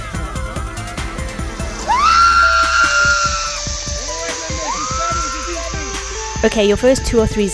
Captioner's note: screams